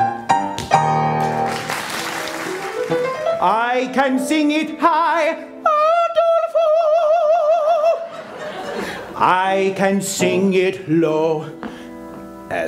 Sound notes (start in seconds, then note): 1.2 applause; 8.0 laughter